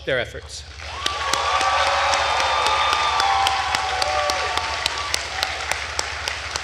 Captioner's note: attendees cheering and applauding